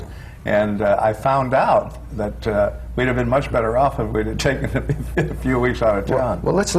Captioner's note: laughs